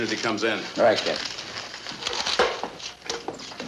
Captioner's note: papers rustle